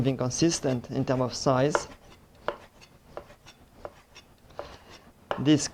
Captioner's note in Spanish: sonido cortando